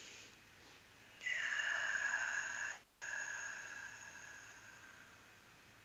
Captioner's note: breath